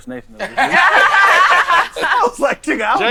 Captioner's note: laughing